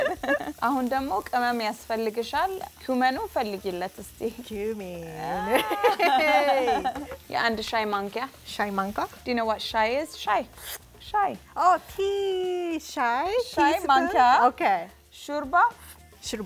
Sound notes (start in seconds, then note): 0.3 speaking Amharic; 7.2 speaking Amharic; 10.6 Amharic; 13.3 speaking Amharic